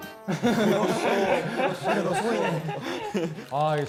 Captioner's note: kekeke